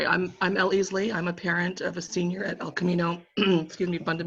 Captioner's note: coughing